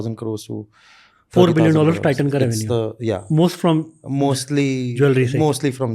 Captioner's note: speaks in Hindi